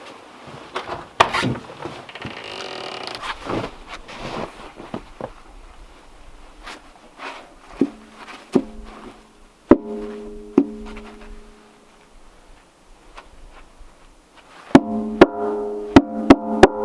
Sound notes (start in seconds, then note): 1.8 door creaking; 9.7 metal clanging